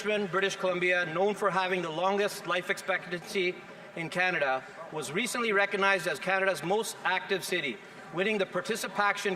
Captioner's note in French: voix de l'interprète